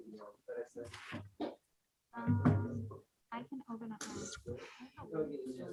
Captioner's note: members chatting